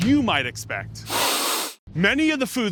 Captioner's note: sniffs